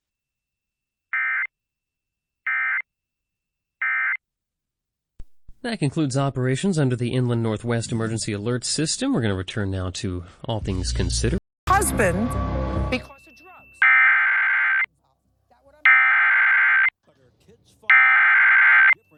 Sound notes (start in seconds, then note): 13.6 SAME header tones